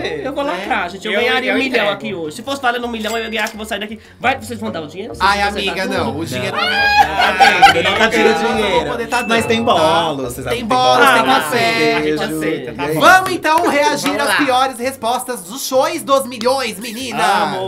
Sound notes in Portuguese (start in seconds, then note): 6.7 risos